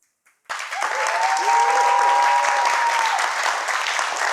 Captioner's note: audience cheering; applause